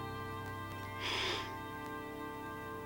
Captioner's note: sigh